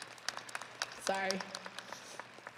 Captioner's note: audience applauding